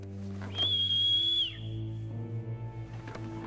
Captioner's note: light haunting music; whistling